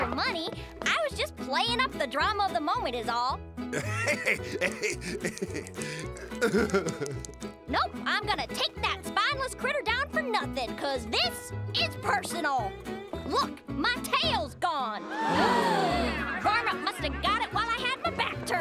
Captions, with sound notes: I was just playing up the drama of the moment is all. [laughing] [crying] Nope, I'm gonna take that spineless critter down for nothing cause this is personal. Look, my tail's gone. [gasping] Varmint must have got it while I have a back turned,